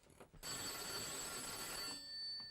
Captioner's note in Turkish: telefon çalar